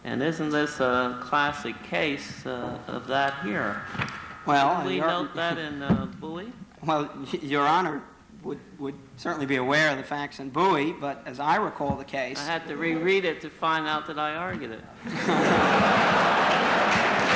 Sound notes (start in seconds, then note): 15.0 laughter; 16.0 applause